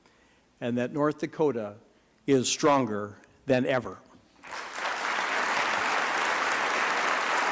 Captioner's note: applause